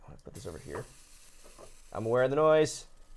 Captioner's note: hot plate sizzling